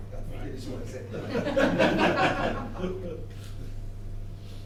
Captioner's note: laughter